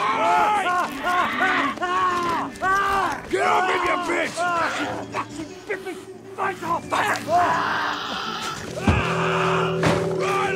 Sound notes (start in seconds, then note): 0.5 Riley yelling; 7.2 Eddy shrieking